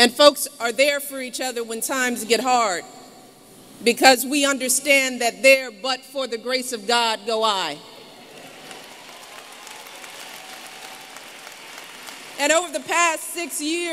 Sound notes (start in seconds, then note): 8.2 applause